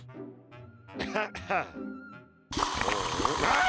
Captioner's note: clears throat